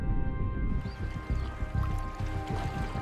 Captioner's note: seagulls